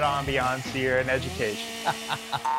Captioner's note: interviewer laughs